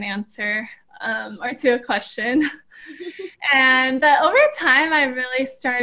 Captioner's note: laughter